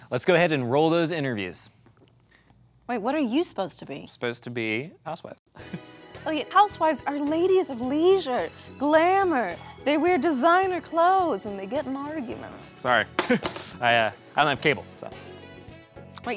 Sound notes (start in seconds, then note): 5.6 chuckles; 13.2 doll clatters on floor